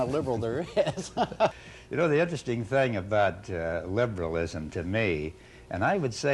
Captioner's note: laughter